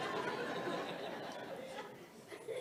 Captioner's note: audience laughs